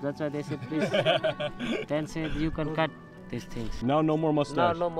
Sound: laughing

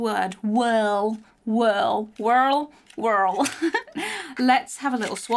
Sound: laughs

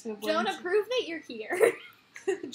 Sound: laughter

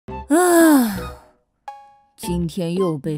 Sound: sigh

